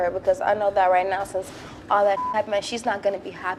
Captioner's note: beep